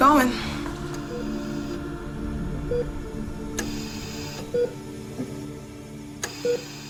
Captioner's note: ventilator breathing; heart monitor beeping